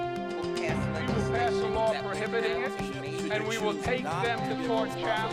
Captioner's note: overlapping chatter